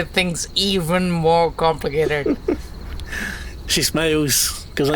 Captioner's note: laughs